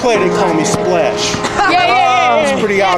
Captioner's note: laughter